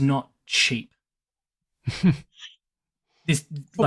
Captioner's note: chuckles